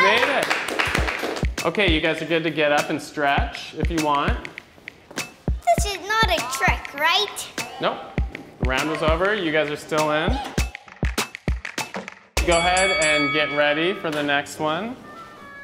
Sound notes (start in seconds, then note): 12.3 upbeat music; 12.4 bell dinging; 15.4 soft classical music